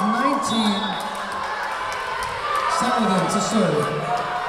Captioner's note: whistle blowing